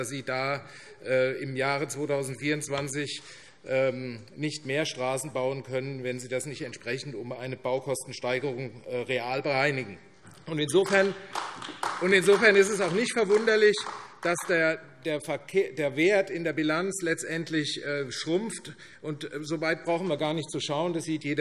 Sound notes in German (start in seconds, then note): 10.7 Beifall AfD